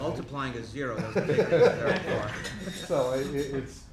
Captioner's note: laughing